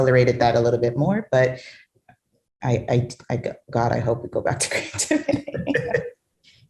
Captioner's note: laughs